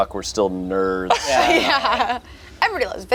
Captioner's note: group laughs